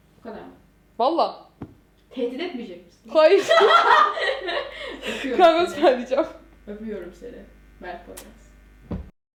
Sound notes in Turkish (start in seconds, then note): 3.4 kahkahalarla gülerler